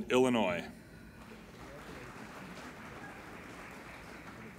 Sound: applauding

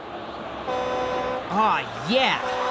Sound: truck horn

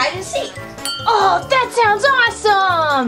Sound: glass clinks

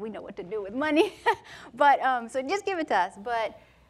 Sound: laughs

